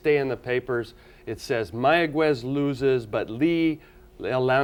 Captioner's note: speaking foreign language